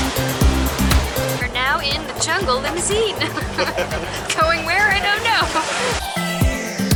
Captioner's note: laughter